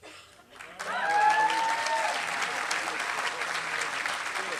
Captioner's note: applause